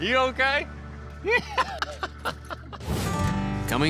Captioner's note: laughter